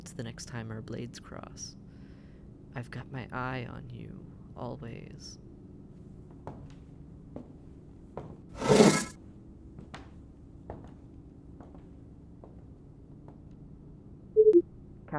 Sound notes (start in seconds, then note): 8.6 door woosh; 14.4 communicator beeps